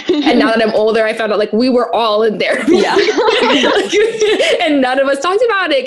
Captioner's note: laughter